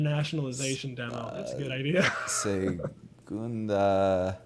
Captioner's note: laughs